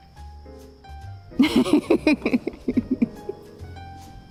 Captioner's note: laughing